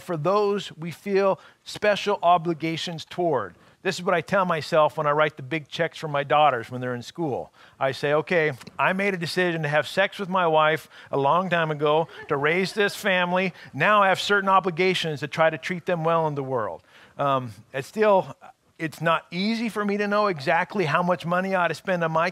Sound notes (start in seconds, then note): 11.8 laughing